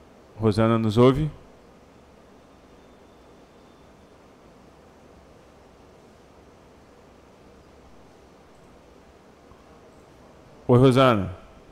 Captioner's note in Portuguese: Silêncio; Silêncio